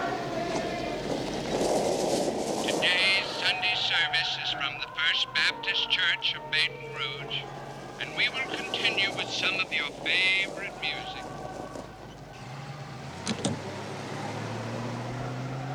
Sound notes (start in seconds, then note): 1.1 tires on dirt road